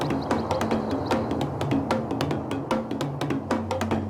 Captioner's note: birds chirping